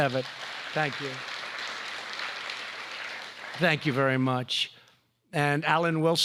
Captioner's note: applause